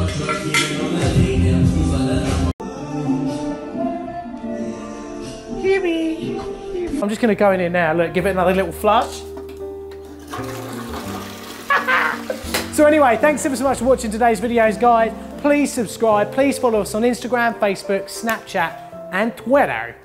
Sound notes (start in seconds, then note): 10.0 toilet flushing; 11.7 laughs